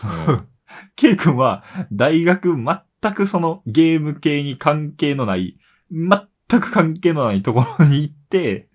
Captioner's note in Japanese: 笑い